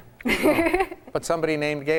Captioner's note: laughs loudly